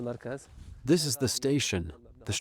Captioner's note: through translator